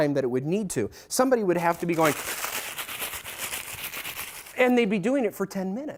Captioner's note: crinkles bag